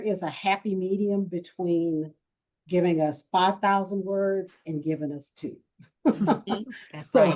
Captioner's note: chuckles